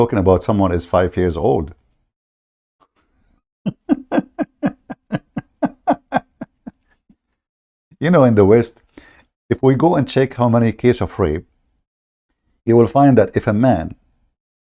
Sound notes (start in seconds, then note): 3.6 Ketawa